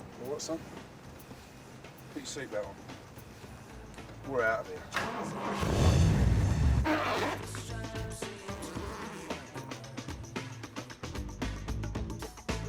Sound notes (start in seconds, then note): 5.0 engine revs